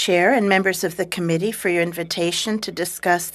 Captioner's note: speaking French